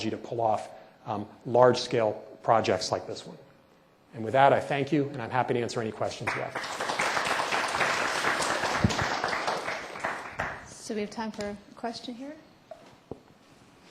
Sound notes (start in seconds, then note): 6.2 applause